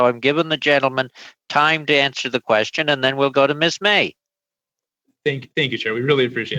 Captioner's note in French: voix de l'interprète